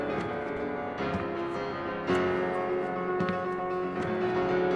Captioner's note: footsteps